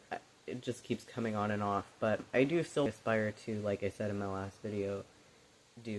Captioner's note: none